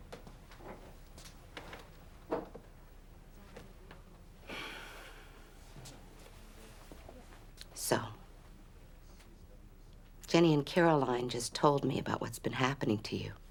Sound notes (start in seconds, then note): 4.4 sighing